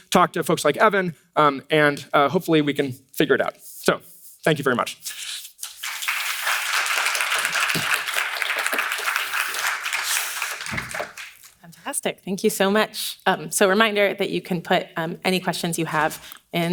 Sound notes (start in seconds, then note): 5.7 audience applauds